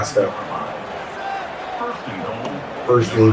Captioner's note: crowd Noises